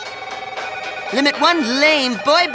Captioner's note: phones ringing